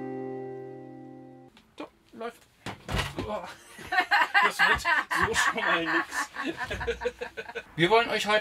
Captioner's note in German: stolpert, lachen; lachen